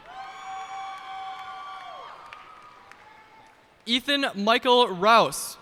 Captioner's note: cheers and applause